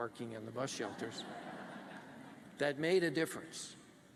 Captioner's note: laughter